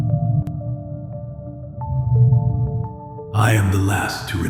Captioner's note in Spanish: ambiente de espacio profundo